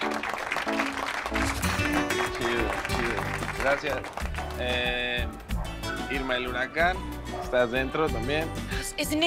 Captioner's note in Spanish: Aplauden